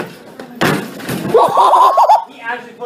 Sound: laughing

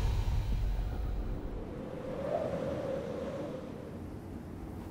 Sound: wind blowing

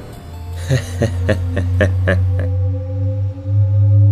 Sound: laughs

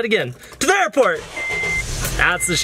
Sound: beep and car revving

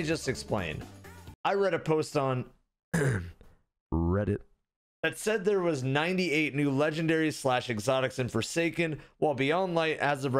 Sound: ahem

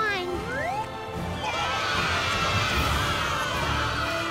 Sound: cheering

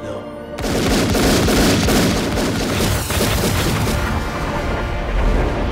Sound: suspenseful music; gunshots

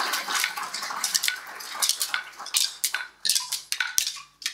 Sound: sticks clicking

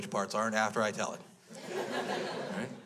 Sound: crowd laughs

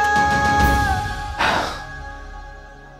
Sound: exhaling

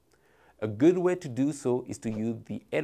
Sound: text whooshing

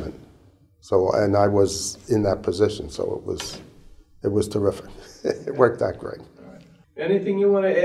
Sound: chuckle

